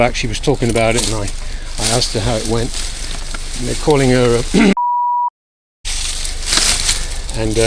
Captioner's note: beep tone